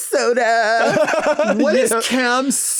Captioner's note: both laughing